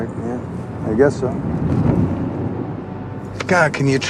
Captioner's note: car thuds